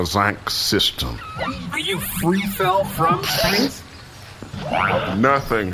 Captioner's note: in disbelief